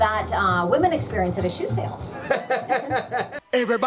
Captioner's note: laughs